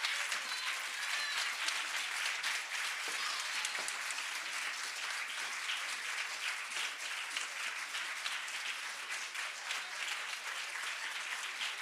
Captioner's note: cheers and applause